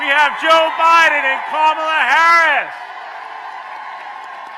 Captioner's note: applause